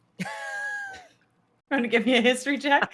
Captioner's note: laughs